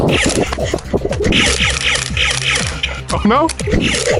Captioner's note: Nerf blaster firing